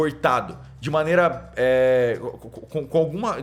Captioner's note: stammers